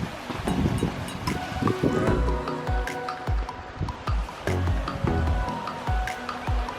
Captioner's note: stream rushing; upbeat music continues